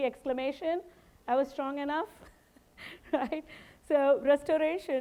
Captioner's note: chuckling